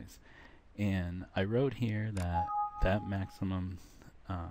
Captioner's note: sound effect